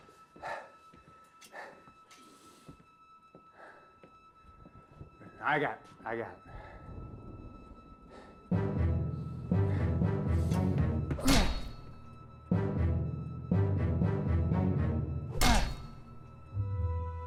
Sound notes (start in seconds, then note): 0.0 Michael breathing heavily; 4.3 thunder rumbling; 8.2 dramatic orchestral music; 11.2 candle maker whacking against body